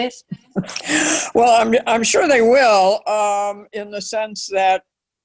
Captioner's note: laughs